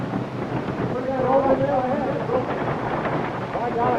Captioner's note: voices growing louder, horses approaching